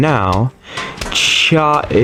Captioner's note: inhales Oxygen; mating Call